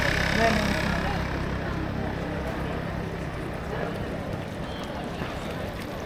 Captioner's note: people chattering